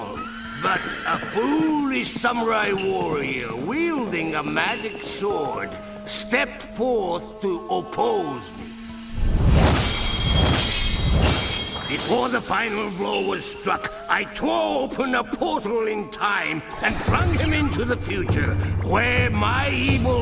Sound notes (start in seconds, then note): 9.1 shwoosh